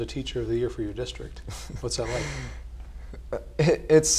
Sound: laugh

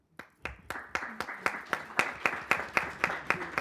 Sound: group clapping

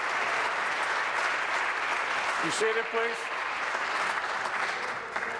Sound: applause

